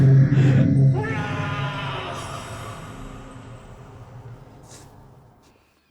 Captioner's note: screaming